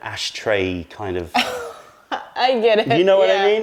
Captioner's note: laughter